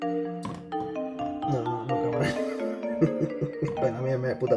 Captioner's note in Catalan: Riu